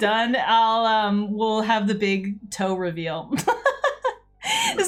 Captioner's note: laughs